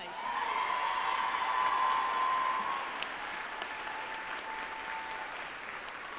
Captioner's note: group applauding and cheering